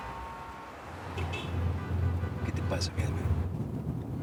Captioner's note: Ruido del tráfico